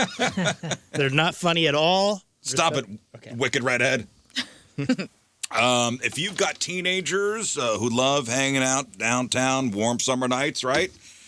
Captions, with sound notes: (laughing) They're not funny at all. Stop it, wicked redhead. (laughing) If you've got teenagers who love hanging out downtown, warm summer nights, right?